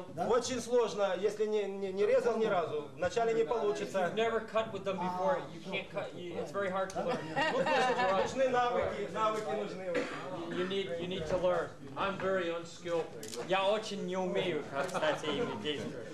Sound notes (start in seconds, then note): 0.6 russian speech; 7.0 laughter; 8.8 russian speech; 13.0 russian speech